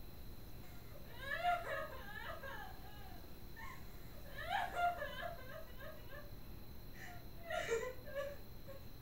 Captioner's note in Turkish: Ağlama sesleri gelir